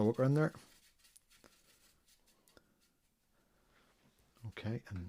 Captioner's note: silence